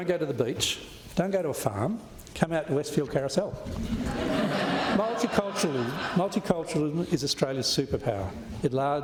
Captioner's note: laughter